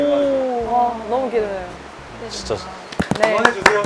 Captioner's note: excited, applause